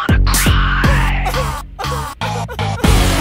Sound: fake crying

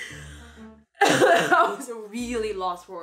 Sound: coughing

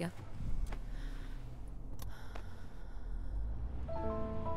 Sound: sighs

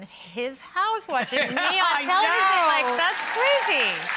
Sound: laughing; audience applauding

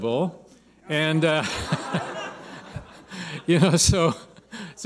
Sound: laughter

